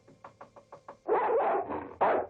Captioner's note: knocking; dog barking